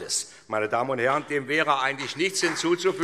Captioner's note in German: Beifall SPD